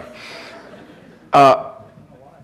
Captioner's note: audience laughing